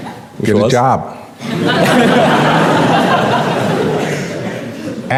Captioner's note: laughing